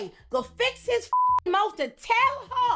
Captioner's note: beep